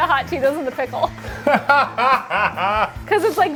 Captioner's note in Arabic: يضحك